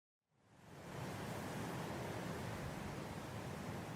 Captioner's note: gentle wind blowing